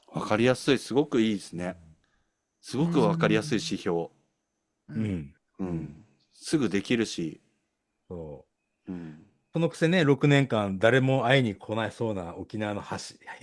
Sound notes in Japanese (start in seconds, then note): 5.6 咳払い